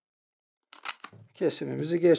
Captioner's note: the sound of the grafting scissors when cutting the pencil, crunch